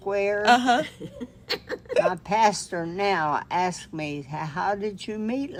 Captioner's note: giggles